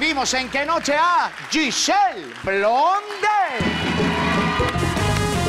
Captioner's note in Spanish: Ovación